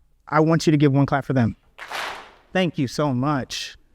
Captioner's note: audience claps